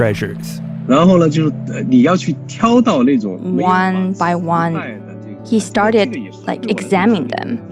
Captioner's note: speaking Mandarin Chinese